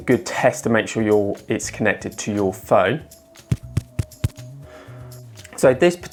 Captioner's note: tapping the microphone